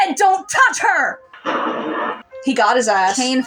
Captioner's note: thunder